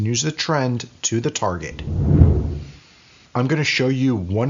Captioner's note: whooshing